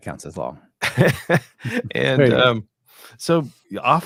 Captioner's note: both laughing